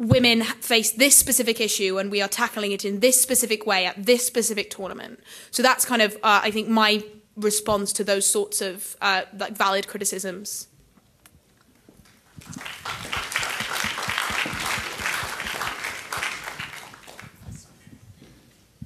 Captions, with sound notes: women face this specific issue and we are tackling it in this specific way at this specific tournament so that's kind of I think my response to those sorts of valid criticisms. (audience applauding)